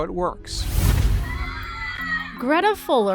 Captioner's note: people cheering on video